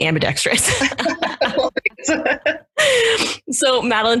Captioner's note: both laugh